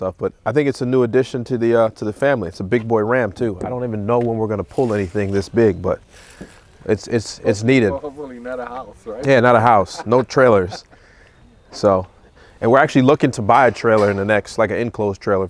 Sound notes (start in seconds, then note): 7.9 distant talking